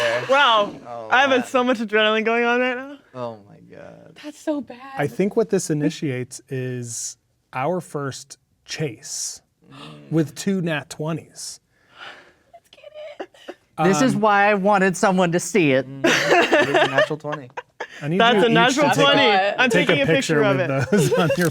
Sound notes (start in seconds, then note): 9.1 groans; 9.7 gasps; 12.6 chuckles; 16.0 laughing